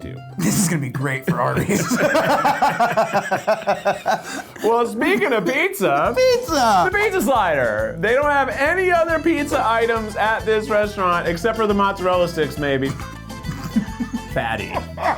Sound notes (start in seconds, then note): 1.5 laughing; 12.8 laughing